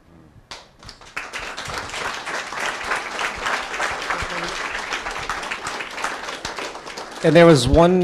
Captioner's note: applause